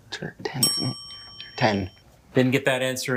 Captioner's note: bell dings